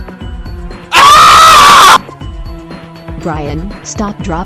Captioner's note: screaming